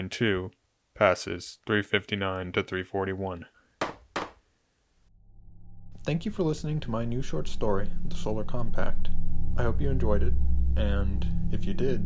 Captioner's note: gavel sound